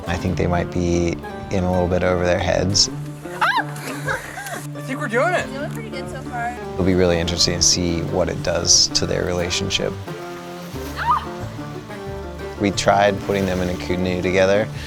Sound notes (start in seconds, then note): 3.6 squeals; 11.3 shouts